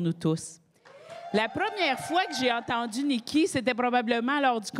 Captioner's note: cris et applaudissements